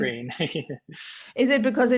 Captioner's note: laughs